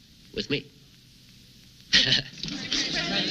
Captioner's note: laughing